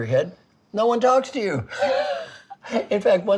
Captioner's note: laughing